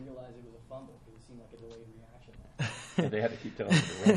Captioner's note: laughs